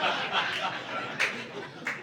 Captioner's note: audience laughing